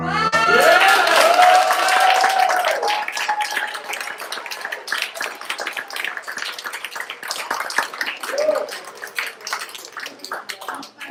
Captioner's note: applause